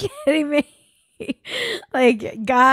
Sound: laughs

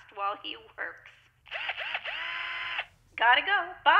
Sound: drilling

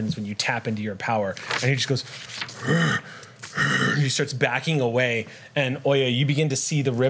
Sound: monster sounds

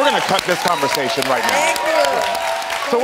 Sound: audience cheers

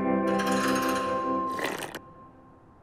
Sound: slurping

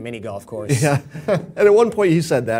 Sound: laugh

